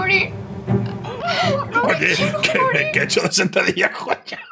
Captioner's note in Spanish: llora